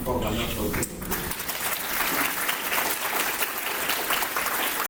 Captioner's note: applause